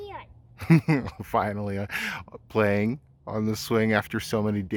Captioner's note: chuckles